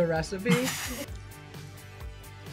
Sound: laughs

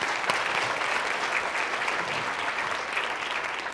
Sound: applause

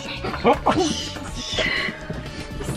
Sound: whispering; Logan huffs

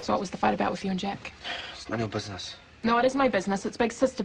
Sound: Kane sighs

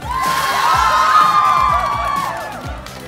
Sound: cheering and applause

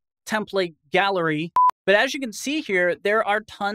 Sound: beep

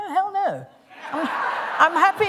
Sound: laughter

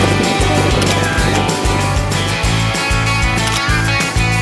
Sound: upbeat rock music; camera shutter clicking

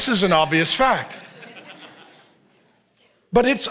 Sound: congregation laughs

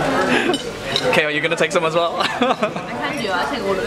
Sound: laughs

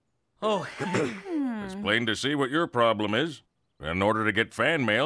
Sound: sobbing

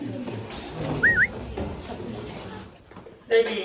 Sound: whistle~~~

